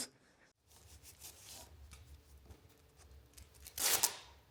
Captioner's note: tape smoothing